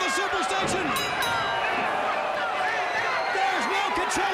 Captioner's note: bell rings